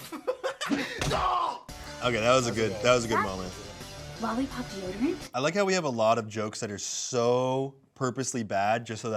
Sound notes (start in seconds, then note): 0.0 laughs; 0.9 punch thuds; 1.0 screams